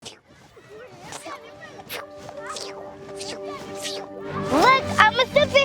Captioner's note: children chattering; gentle music